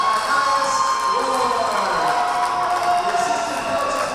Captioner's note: crowd cheering